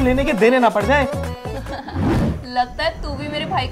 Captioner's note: Laughs